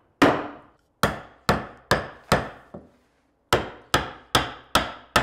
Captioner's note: hammer banging